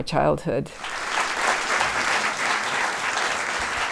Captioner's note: applause